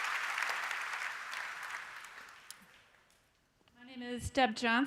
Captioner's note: applause